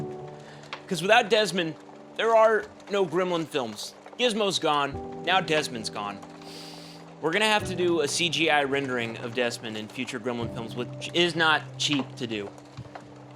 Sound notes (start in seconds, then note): 6.4 Nick breathes in deeply through his nose